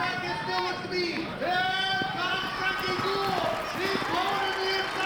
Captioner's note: exclaiming; announcer calling race